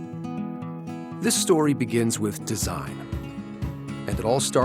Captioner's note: voiceover